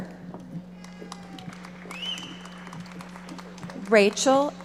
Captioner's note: audience applauding